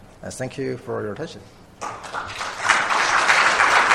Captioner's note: applause